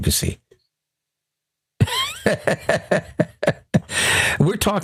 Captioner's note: laughing